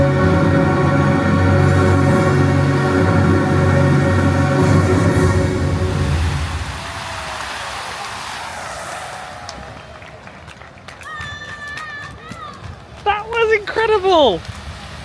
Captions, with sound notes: (bright music continues) (crowd cheering) (water splashing) That was incredible.